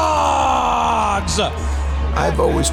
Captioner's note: crowd cheers and applauds